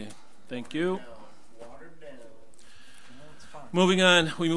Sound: overlapping chattering

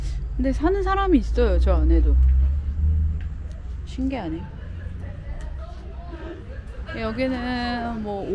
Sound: laughs

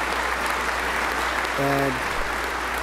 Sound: applause

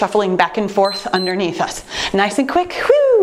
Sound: timer beeps

